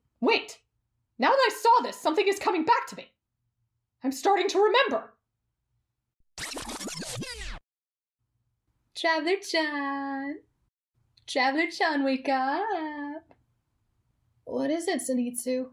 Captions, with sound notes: Wait… now that I saw this something’s coming back to me. I’m starting to remember… --- (rewind sound) Traveler-chaaan. Traveler-chan wake uuuup. What is it, zenitsu?